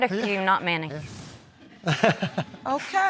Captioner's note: laughs